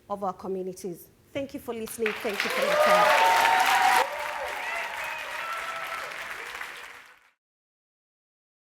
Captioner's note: applause